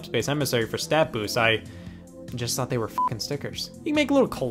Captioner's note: beep